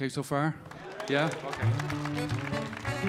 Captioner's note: audience applauding; bright music